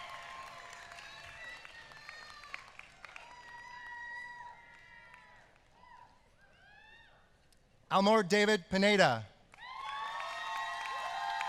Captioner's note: applause